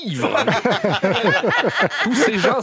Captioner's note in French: rires